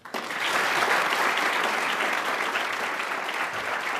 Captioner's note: audience applauding